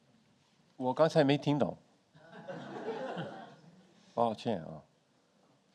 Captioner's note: speaking in foreign language